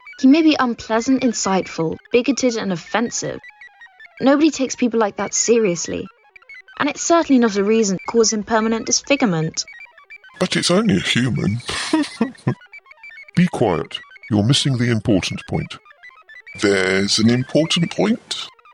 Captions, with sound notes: He may be unpleasant, inciteful, bigoted and offensive... nobody takes people like that seriously... and it’s certainly not a reason to cause him permanent disfigurement But it’s only a human [laughs] Be quiet – you’re missing the important point. There’s an important point?